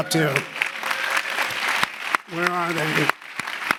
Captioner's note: audience applauding